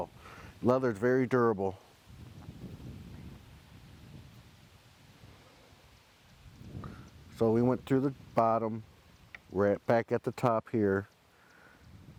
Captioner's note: silence